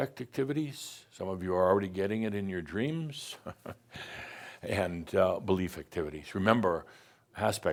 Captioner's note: chuckles